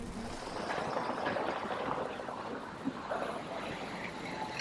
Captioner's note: car whirring